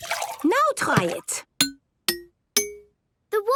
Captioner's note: pitched tinks